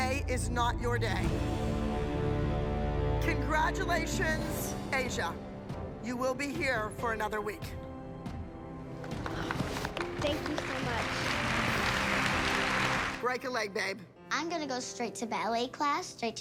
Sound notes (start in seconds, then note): 11.8 applause